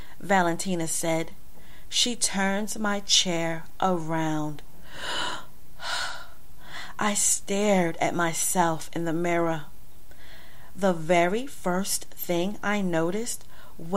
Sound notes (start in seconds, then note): 5.1 gasp